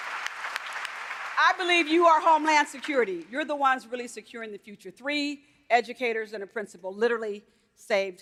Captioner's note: applause